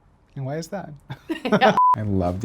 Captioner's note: laughing; beep